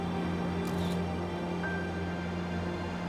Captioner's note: camera shutter clicks; melancholy music continues